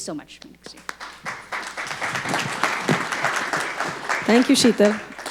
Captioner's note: audience applauding